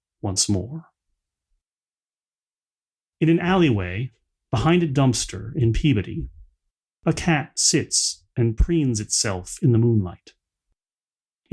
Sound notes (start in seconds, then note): none